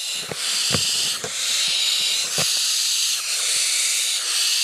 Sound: hissing

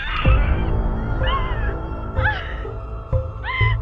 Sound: Arathi weeping

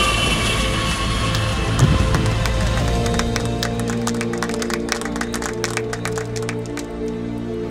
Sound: people clapping

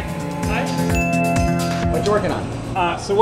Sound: ding

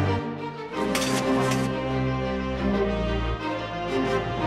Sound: concrete scraping

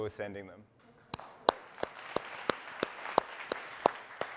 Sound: audience applauds

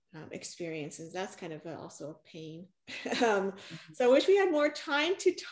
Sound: chuckles

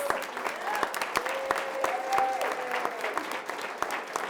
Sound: audience applauding

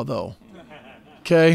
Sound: laughter

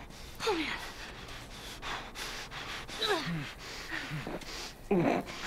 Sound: Ellie, breathlessly; Joel takes sharp, ragged breaths; Joel groans

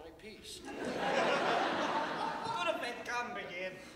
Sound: audience laughter

